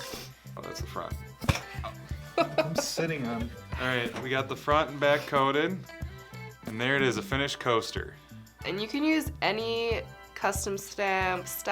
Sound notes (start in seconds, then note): 2.2 laughs